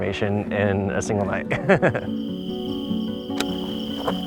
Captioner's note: laughs